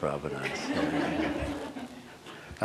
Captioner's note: laughter